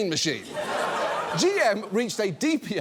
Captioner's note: audience laughs